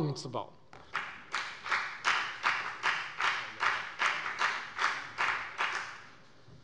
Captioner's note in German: Beifall bei der FDP